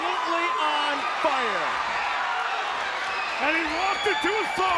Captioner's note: audience cheers